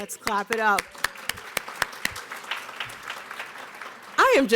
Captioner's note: applause